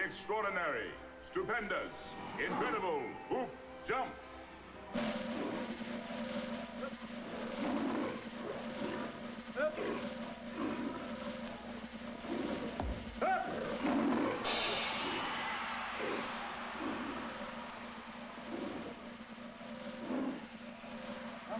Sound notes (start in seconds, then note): 4.7 drum roll; 11.0 lion growling; 14.3 cymbals crash; 16.1 crowd cheers